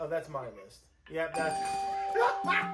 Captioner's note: dinging; laughing